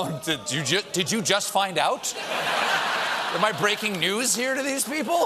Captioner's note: booing